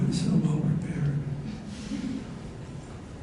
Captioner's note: laughter